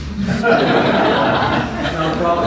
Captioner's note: laughter